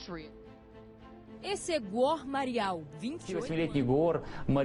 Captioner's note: speaks Portuguese; speaks Russian